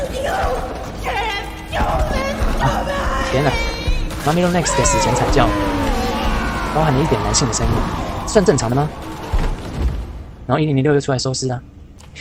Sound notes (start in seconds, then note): 4.1 Mommy Long Legs Death Voice